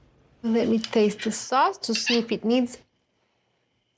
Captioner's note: none